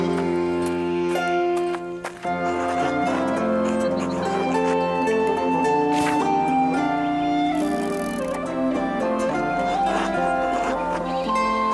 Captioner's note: sheep bleating